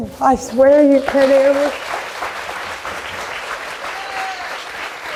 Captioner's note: crowd applauding